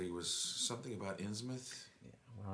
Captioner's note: none